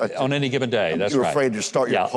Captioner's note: Huckabee chuckles